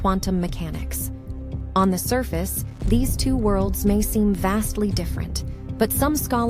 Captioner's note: voiceover